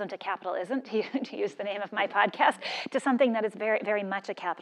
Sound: laugh

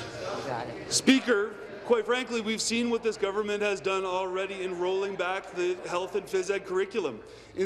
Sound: conversation din

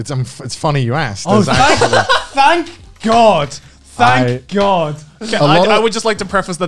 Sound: laughs

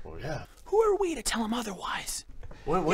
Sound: whispering

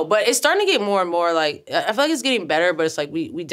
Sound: none

